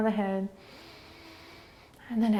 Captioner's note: inhaling